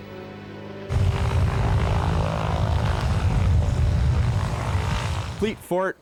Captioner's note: plane engine rumbling